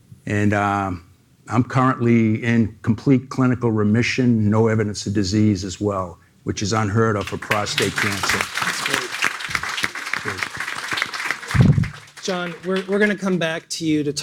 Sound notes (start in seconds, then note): 7.2 audience applauding; 10.6 applause drowns out dialogue